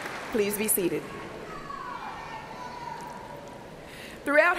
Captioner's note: applause